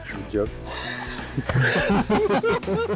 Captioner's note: laughing